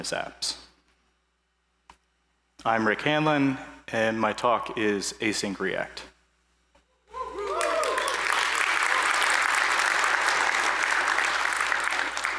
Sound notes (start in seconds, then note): 7.3 applause